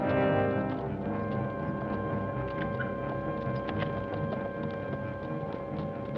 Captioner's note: suspenseful orchestral music; distant hooves clop